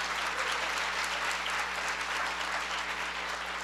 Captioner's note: cheering; applause